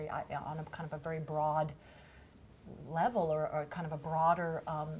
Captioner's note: none